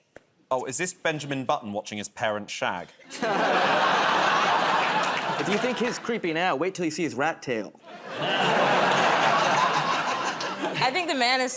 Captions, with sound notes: -Oh, is this Benjamin Button watching his parents shag? [ Laughter ] -If you think he's creepy now, wait 'til you see his rat tail. [ Laughter ] -I think the man is saying,